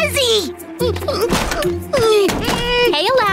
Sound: grunting

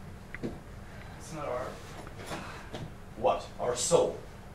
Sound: sighs

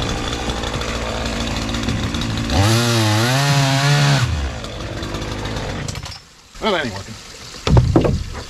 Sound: sawing

